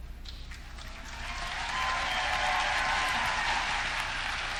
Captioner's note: audience clapping